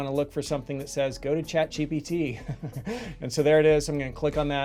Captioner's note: chuckling